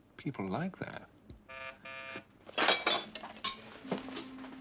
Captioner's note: bel pintu berbunyi